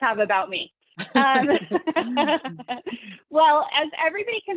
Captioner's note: laughing